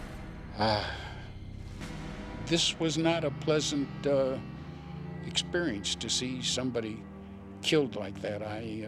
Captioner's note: sighs